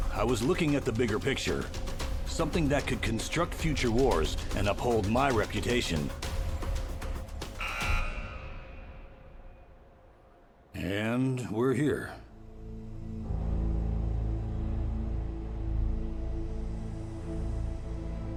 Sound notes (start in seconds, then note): 7.4 buzzer blaring; 14.2 gentle music